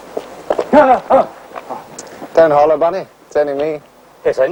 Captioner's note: alarmed cry